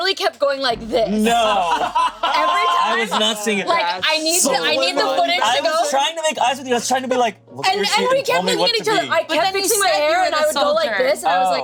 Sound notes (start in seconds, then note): 1.2 everyone laughing